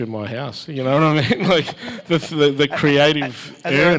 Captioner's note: laugh